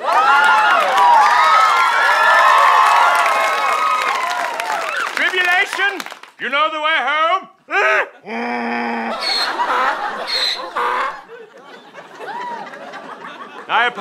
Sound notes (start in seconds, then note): 0.0 audience cheering; 7.7 brays; 9.6 donkey brays in return